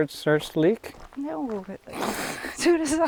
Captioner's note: both laugh